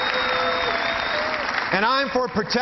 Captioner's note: cheering